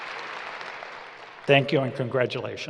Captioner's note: applause